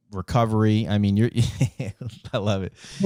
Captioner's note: laughs